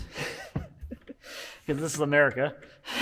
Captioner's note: laughing